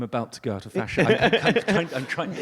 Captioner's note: audience laughs